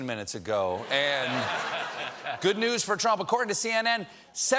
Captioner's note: laughter